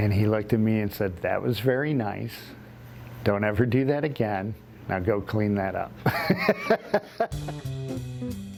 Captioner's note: laughs